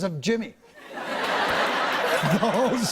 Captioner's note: laughter